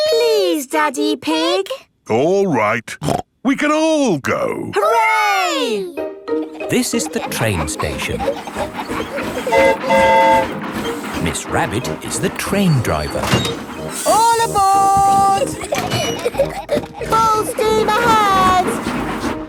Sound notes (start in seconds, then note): 9.4 train whistle toots; 15.0 giggling